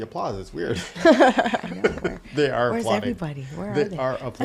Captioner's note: laughing